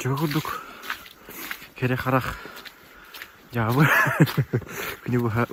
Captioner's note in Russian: смеется